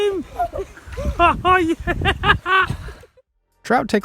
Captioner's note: laughing